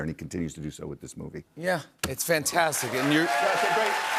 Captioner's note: cheers and applause